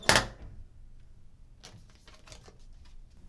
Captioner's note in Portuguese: sons de tranca